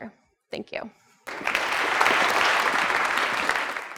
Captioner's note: applause